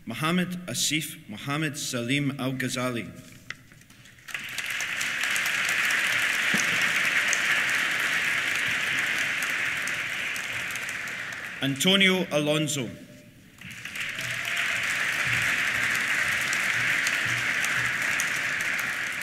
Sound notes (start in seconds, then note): 4.0 applause; 13.5 applause; 13.6 cheers